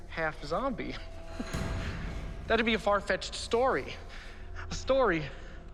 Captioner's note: laughs